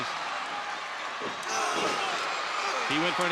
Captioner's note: wrestlers grunt